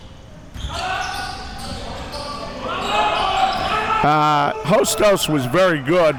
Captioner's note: audience chattering and yelling